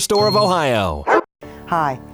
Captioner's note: dog barks